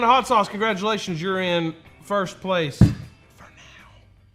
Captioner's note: whispers